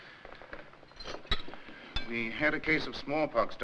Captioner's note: dishes clattering